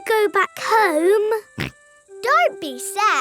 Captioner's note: snorts